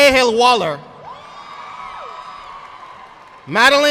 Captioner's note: audience applauding